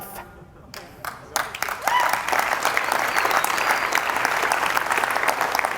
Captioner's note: audience applauding and cheering